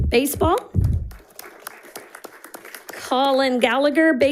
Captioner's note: audience applauding